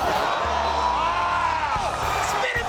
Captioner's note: audience roaring